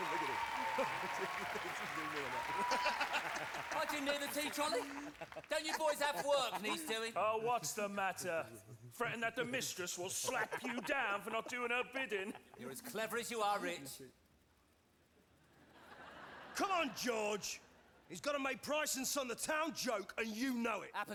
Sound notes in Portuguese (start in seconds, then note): 0.0 audience cheering and applauding; 1.5 laughs; 2.2 speaking drowned out by audience cheering and applauding; 15.8 audience laughing